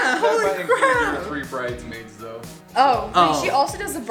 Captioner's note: male Voice